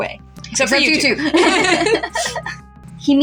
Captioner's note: laugh